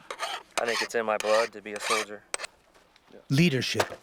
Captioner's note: voiceover